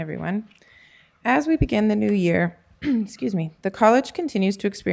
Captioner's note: clears throat